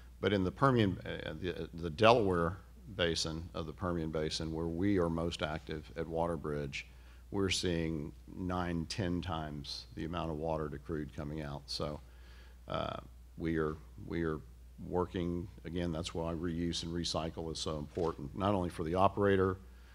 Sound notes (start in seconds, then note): none